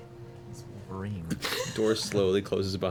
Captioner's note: quiet cackling; laughs